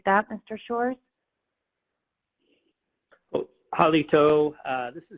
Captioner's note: speaking Native language